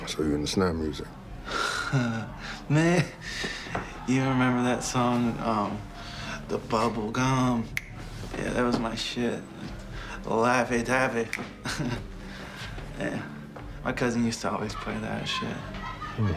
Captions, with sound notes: - So you into snap music. - Ha, man, you remember that song, "The Bubblegum"? (clicks fingers) Yeah, that was my shit. Lovey dovey (laughs) Yeah, my cousin used to always play that shit.